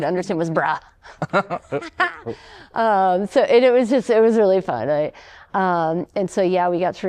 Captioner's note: laughter